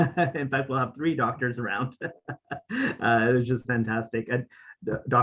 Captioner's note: laughs